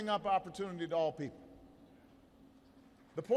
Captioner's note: applause